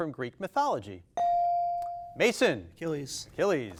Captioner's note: bell dings